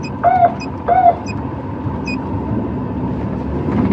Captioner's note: sirenen w waililingn